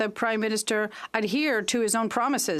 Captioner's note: speaking French